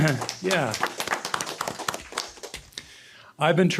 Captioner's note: applause